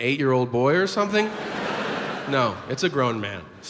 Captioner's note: audience laughs